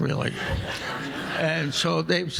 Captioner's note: audience laughing